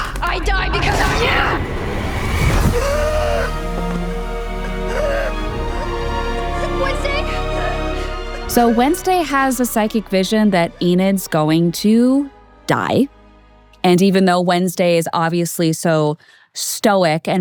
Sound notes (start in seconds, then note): 1.8 tense music; 3.1 Wednesday gasping